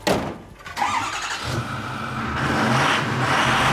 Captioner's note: starting engine; revving